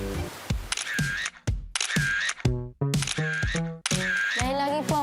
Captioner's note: camera shutter sfx; cheerful music playing